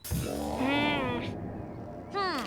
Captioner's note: sour music; Lizbeth grumbling